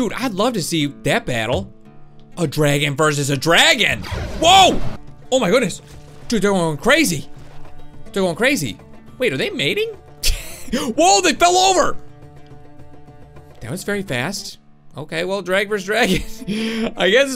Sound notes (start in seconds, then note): 4.0 dragon roars; 10.2 laughs; 16.7 laughs